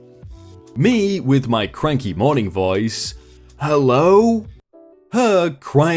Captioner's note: with my cranky morning voice